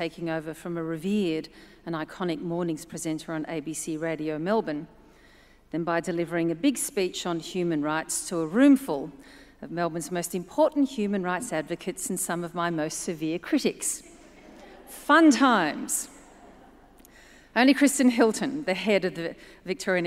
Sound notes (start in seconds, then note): 14.2 audience laughs